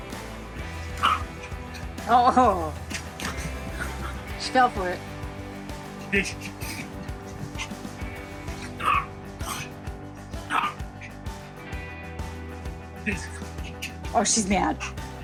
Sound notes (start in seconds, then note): 0.9 Daisy barking; 8.7 Daisy barking